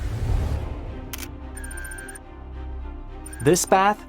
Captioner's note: camera lens zooming